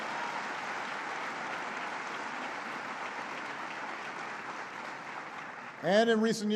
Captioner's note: applause